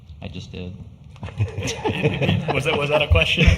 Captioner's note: laughter